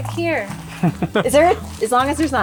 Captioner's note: laughs